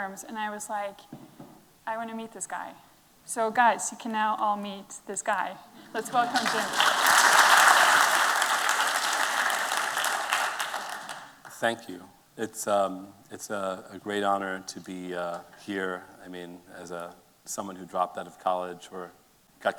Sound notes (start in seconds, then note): 6.0 applause